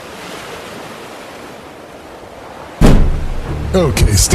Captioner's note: door kicks open